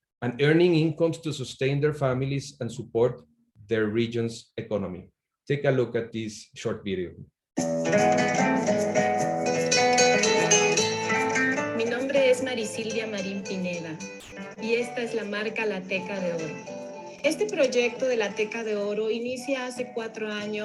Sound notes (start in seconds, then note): 7.7 bright upbeat music; 12.0 speaks in foreign language